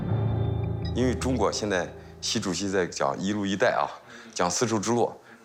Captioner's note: speaking in foreign language